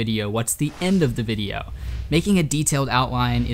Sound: air whooshes

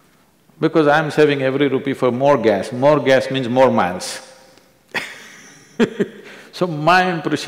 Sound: laughs

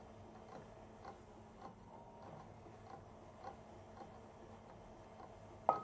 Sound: mixer slowly whirring

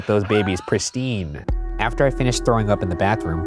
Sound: laughing

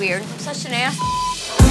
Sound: beep

